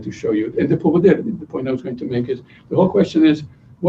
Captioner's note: non-english speech